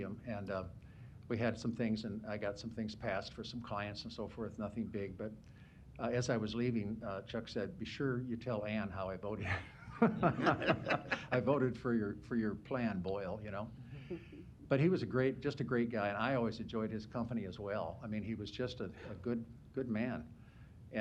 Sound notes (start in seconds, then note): 9.4 laughter